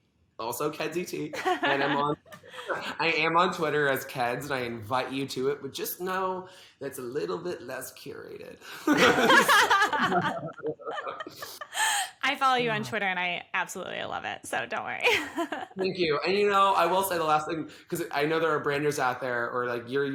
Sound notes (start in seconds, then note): 8.8 both laugh